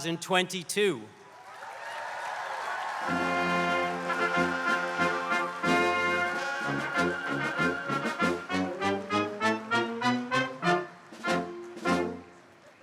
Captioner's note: applause